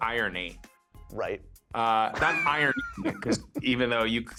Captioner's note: laughs